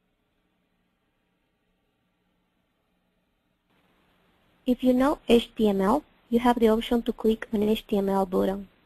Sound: pause

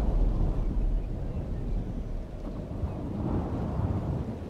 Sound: wind howls

